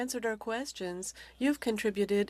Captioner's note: speaking French